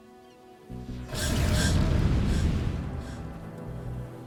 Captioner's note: fire rages; gentle music